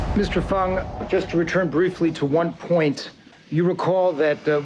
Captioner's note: exhales